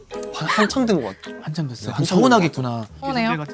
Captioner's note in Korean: 울먹